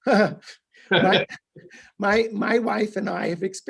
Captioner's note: clearing throat